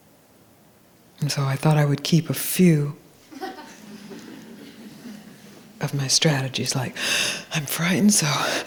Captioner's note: gasping